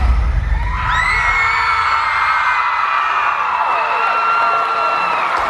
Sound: crowd applauding and hollering

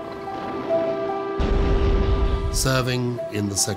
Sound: grenade exploding

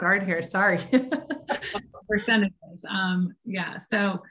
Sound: laughing

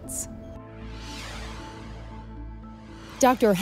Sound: whooshing

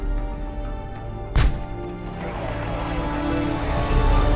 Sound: tank blasting

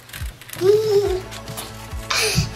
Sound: giggles; upbeat music

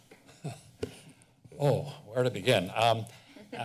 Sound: chuckles

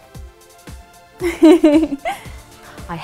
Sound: Dom giggles

